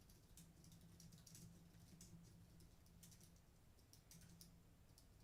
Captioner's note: typing